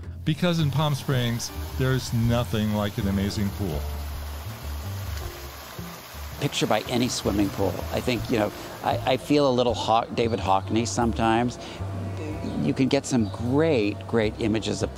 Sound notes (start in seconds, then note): 4.3 water splashing